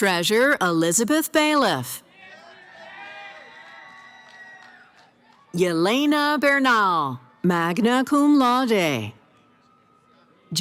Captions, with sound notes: Treasure Elizabeth Bailiff. [ Cheering ] Yelena Bernal, Magna Cum Laude.